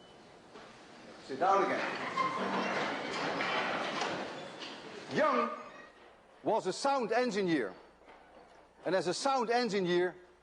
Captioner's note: tone stops; audience noise